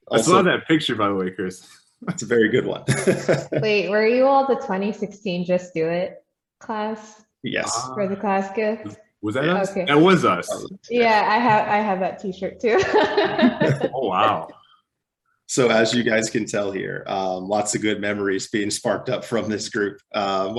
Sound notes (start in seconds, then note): 2.6 both laugh; 12.6 laughs